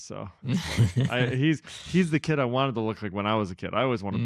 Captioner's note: laughs